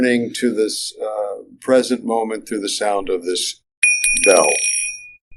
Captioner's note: sound of bells